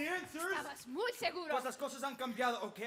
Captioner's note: speaking Spanish